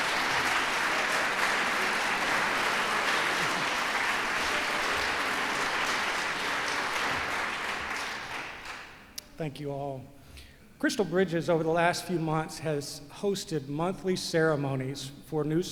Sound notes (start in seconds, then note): 1.6 applause